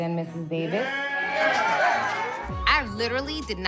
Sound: cheering, applauding

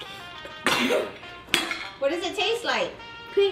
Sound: sneezes

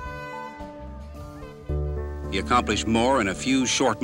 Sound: horn blares

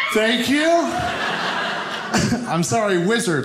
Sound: audience laughing

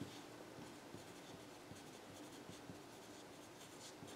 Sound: pen scribbles

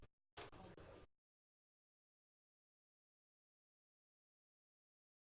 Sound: group chattering

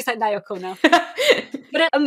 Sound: laughs

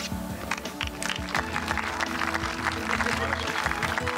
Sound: crowd applauding

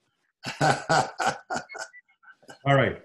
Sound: laughs

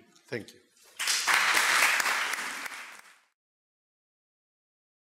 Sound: audience clapping

